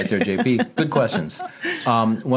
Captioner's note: laughing